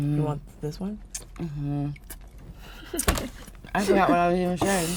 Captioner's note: making chewing noises